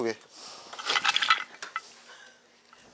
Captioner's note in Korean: 달그락 소리